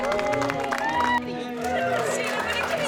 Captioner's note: guests applauding and cheering